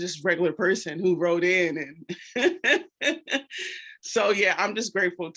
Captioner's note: laughs